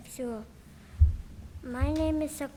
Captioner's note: speaking in a foreign language